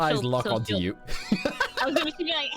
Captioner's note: laughter